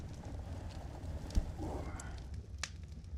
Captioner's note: grunts